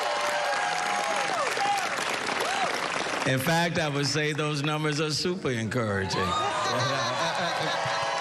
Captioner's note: cheering